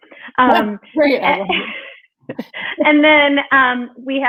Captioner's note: both laughing